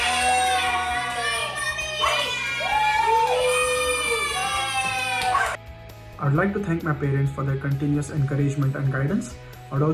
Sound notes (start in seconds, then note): 2.6 family applauding; 2.6 applauding